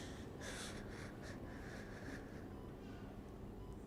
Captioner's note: breathing deeply; breathing shakily